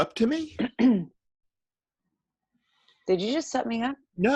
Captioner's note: clears throat